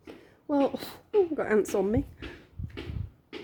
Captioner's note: blowing